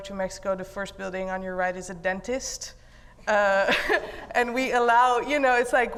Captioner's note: laughs